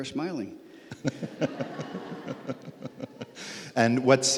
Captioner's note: laughs